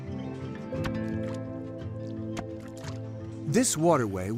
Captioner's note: mud squelching